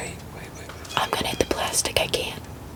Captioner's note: whispering